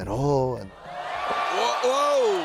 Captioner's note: crowd cheering